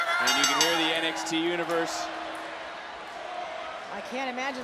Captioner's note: bell rings